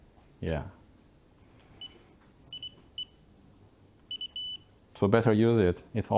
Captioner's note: beeping